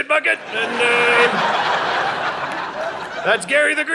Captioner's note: audience laughing